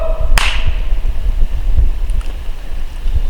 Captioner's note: claps